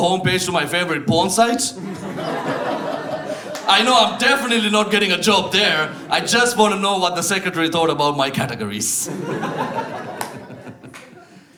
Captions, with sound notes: homepage to my favorite porn site. [Audience laughs] I know I'm definitely not getting a job there. I just want to know what the secretary thought about my categories. [Audience laughs]